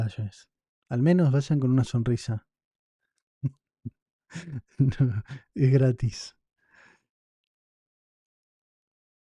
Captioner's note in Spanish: risas